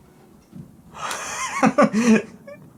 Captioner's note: laughs